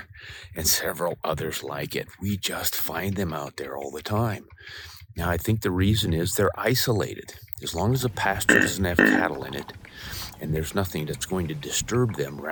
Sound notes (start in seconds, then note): 7.9 buck grunt